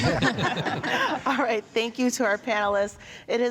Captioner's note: all laughing